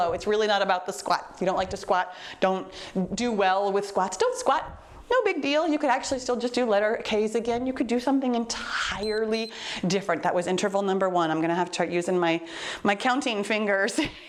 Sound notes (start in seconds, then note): 9.0 timer beeps